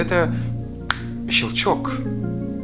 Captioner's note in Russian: Щелчок пальцами